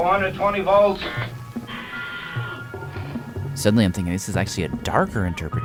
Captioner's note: screams